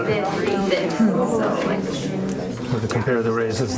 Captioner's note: background chatter